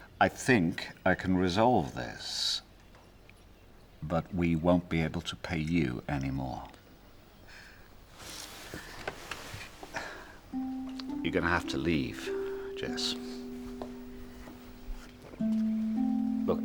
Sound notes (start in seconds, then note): 9.8 Aviner exhaling; 13.4 somber music